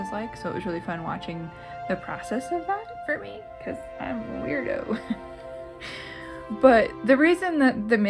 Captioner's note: laugh